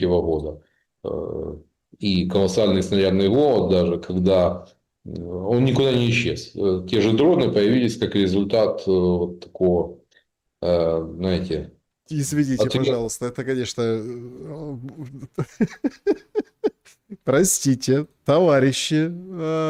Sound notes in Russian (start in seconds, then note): 14.9 смех